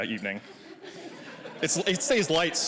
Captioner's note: audience laughing